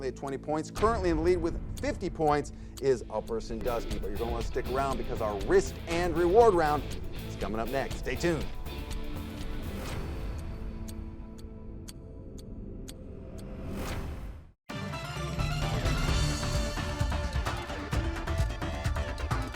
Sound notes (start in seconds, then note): 9.1 clock ticking; 9.1 intense music; 16.6 intense music